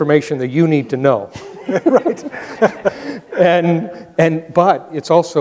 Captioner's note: both laughing